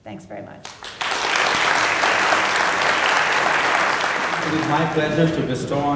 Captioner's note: applause